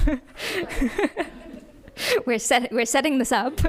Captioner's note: audience laughs